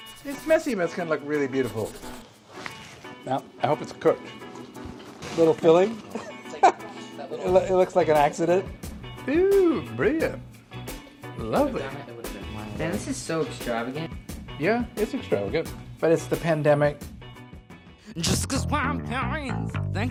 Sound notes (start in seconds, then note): 6.1 laughing